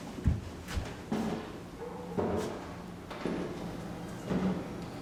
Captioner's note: footsteps tapping